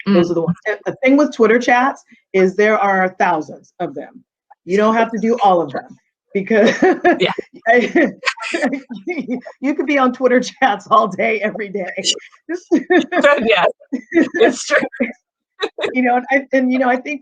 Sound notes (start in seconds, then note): 6.7 chuckling; 12.6 laughing